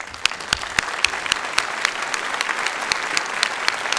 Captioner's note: applause